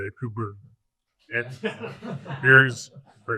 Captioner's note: audience laughs